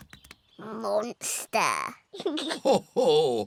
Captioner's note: oinks; giggles; laughs